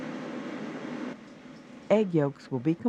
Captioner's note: voiceover